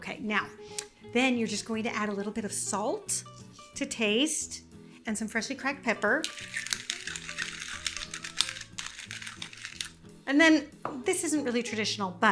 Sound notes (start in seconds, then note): 6.1 pepper cracking